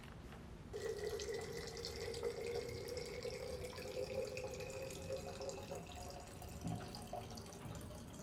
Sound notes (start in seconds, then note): 0.7 water pouring